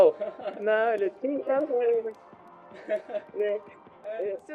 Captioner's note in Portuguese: risadas